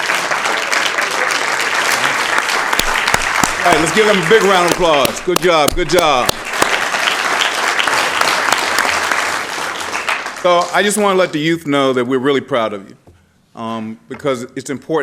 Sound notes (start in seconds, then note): 3.2 applause